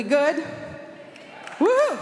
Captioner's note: applause